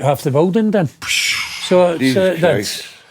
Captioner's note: blowing